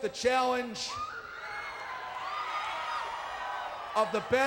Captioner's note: crowd cheering